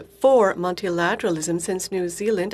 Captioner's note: speaking in french